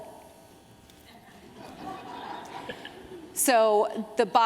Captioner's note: laughter